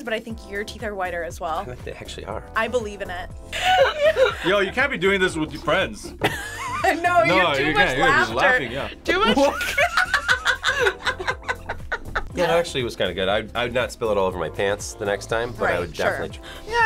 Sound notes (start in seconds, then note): 3.5 both laugh; 9.0 group laughs